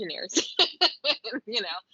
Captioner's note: laughing